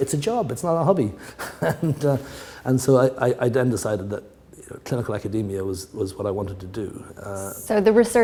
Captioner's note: chuckle